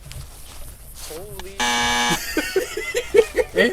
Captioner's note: laughing